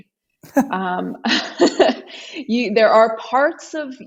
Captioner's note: chuckles; laughs